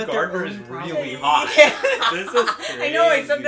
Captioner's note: laughter